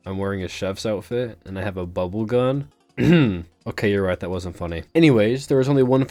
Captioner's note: clears Throat